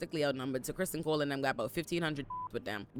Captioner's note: beep